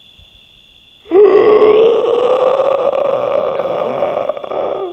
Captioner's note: groans